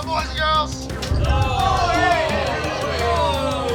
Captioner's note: yells, groans